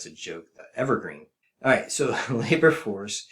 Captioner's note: laughter